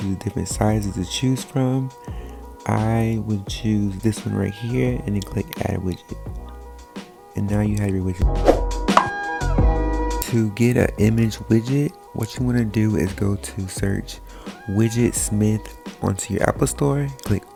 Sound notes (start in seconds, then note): 8.9 popping; 9.3 groovy music